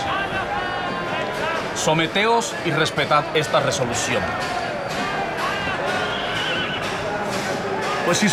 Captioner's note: crowd in uproar